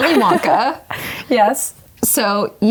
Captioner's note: laughing